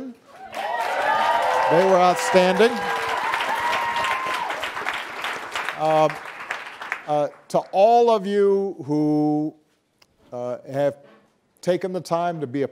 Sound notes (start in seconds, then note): 0.3 audience applauding and cheering